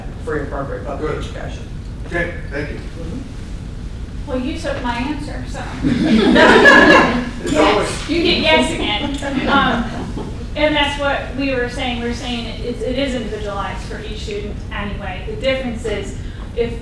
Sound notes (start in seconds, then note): 5.8 laughter